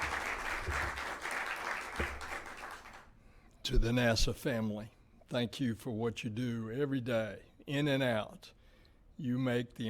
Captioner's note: applause